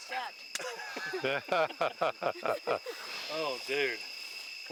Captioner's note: all laughing